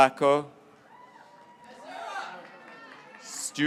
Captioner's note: graduates cheering